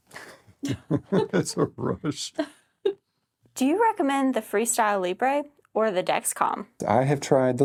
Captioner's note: laugh